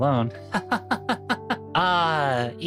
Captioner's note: laughing